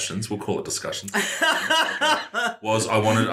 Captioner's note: laughing